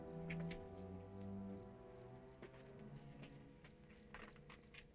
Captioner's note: insects chirping